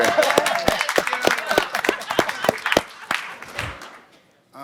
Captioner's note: audience applauding